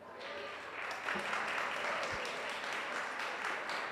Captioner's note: audience applauds